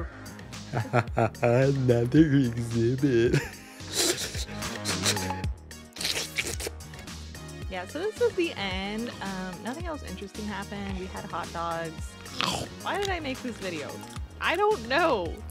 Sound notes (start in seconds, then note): 0.9 shlurping